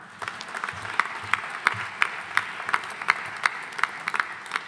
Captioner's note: audience applauding